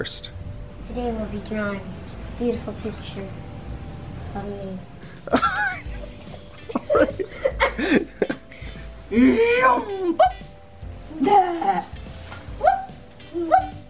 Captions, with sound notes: - Today we'll be drawing beautiful pictures of me. (laughing) (babbling and barking)